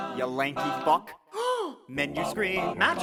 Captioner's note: le British gasp